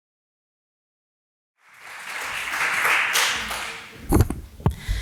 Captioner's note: applause